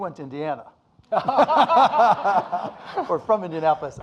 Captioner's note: audience laughing